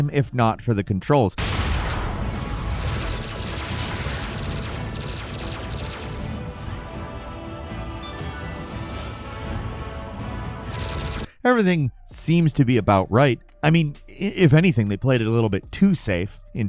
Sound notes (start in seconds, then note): 1.4 lasers blasting; 1.5 rousing orchestral music; 8.0 ring chiming